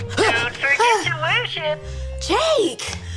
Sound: computer Voice

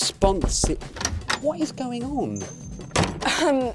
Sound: knocking on door

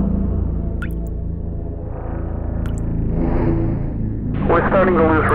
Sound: foreboding music; water spattering

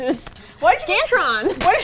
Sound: laughs

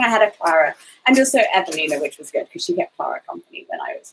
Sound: speaks quickly

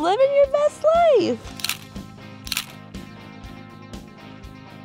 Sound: camera snapping

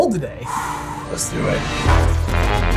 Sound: sigh; dramatic music

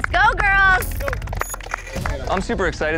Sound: clapping

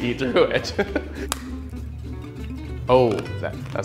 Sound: interviewer laughs; spoon snapping

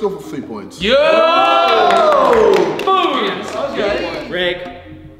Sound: group cheering

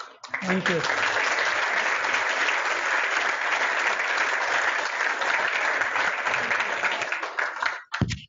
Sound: applause

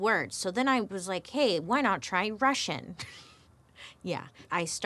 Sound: giggles

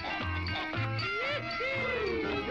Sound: toys whooping

